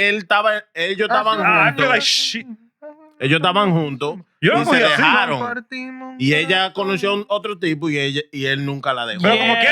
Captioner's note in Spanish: Hablando en idioma extranjero